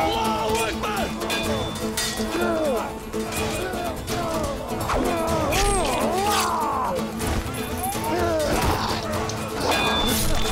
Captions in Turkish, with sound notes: Allahu ekber! (Kılıç sesleri) (Bağırma sesleri)